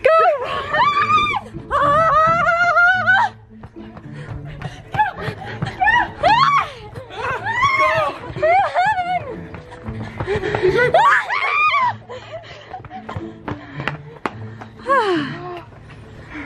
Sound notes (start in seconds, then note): 4.9 heavy breathing and screaming